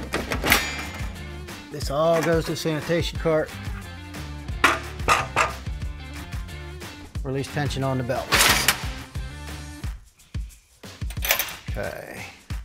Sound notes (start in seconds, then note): 0.3 guard rattles and clanks; 4.8 guard thuds; 8.3 levers scrape